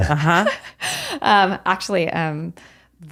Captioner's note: both laughing